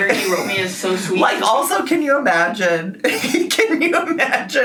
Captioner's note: laughs